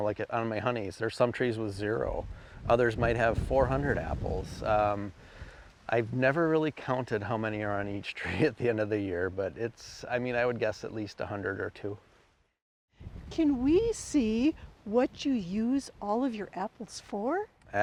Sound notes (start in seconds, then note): 8.2 chuckles